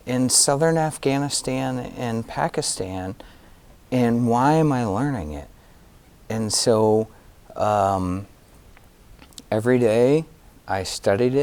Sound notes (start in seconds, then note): none